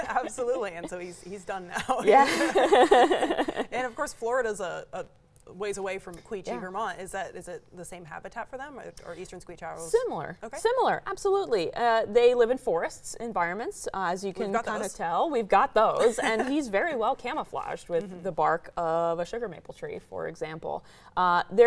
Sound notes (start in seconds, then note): 1.7 laughs